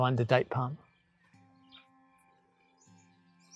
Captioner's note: cricket chirping; gentle classical music; bird chirping